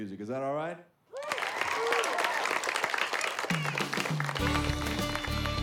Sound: cheering

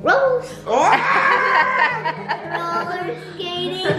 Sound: laughing

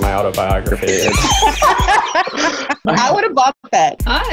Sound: laughing

